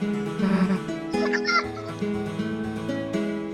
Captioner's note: pained laughter/squealing sound of recognition?